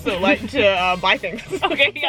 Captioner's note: laughing